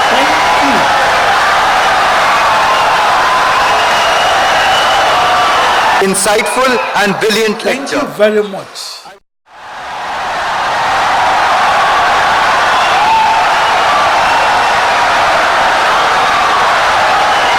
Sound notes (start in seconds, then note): 6.7 wild applause and cheering for 17 seconds